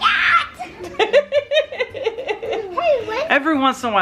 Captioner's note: laughing